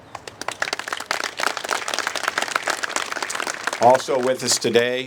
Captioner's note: applause